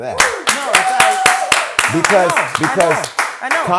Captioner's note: clapping